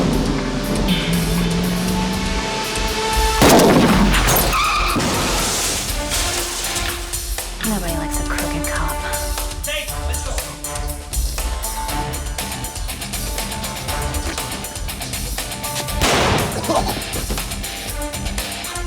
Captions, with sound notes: vroom! >>[gun fires] bang! >>[tires screech] screech! >>[car crashes] crash! >>NOBODY LIKES A CROOKED COP. >>TAKE HER. LET'S GO. >>[gun fires] bang!